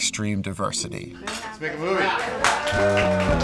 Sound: cheering; western music

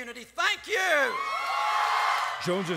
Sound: cheering and applause

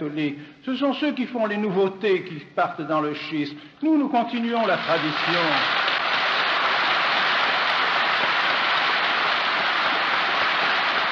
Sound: applause

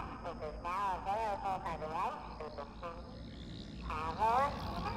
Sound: broken pa sounds

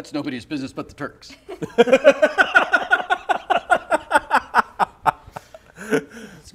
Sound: laughter

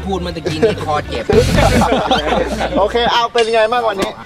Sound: laughs

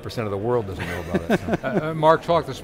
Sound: laughs

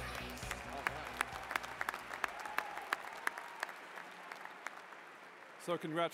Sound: cheers and applause

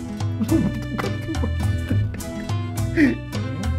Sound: laughing

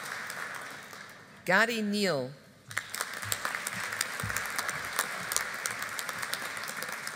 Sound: audience applauding

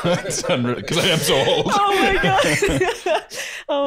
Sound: laughing

